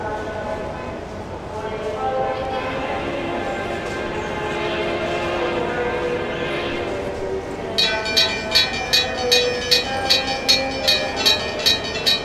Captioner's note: H-24-66 Trainmaster horn, railroad crossing ringing